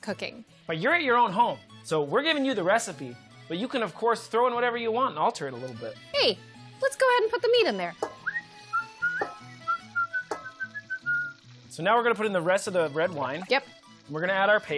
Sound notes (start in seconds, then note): 8.1 whistles along with italian music